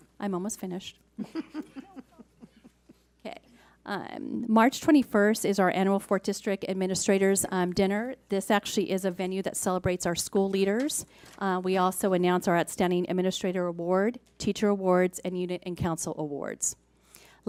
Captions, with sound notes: I'm almost finished. (laughing) March 21st is our annual Fourth District Administrators Dinner. This actually is a venue that celebrates our school leaders. We also announce our outstanding administrator award, teacher awards, and unit and council awards.